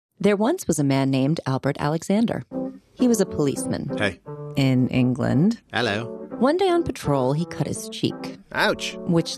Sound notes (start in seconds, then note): 3.8 American accent; 5.6 British accent